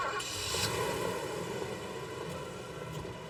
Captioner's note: engine starts